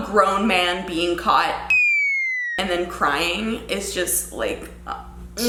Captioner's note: whistling